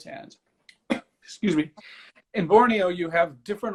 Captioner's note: cough